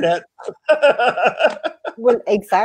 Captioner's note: laughs